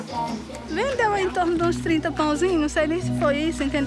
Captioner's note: Portuguese spoken audio